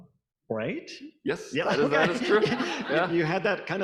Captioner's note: audience applauding